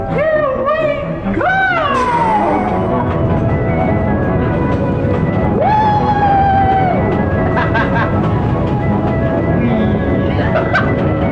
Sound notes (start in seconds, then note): 7.4 laughing; 10.2 laughing